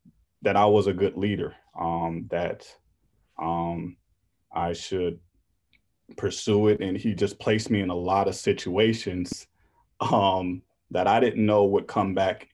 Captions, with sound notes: that I was a good leader, that I should pursue it, and he just placed me in a lot of situations (laughs) that I didn't know would come back